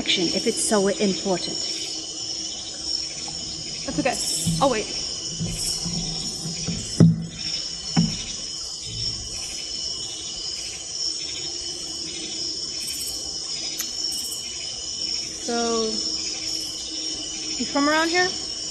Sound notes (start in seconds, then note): 7.9 staff thumps; 8.2 crickets chirping